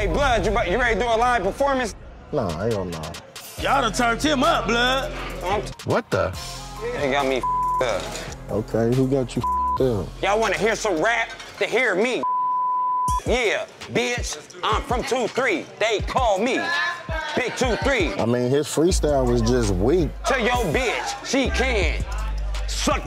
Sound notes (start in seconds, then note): 9.4 beep; 12.2 beep